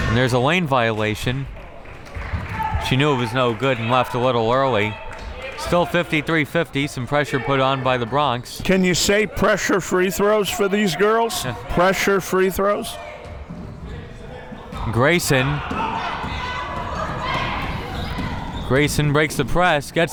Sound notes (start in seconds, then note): 16.1 crowd members shouting